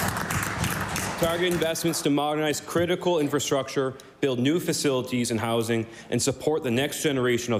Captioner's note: applause